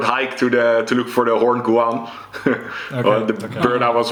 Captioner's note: chuckles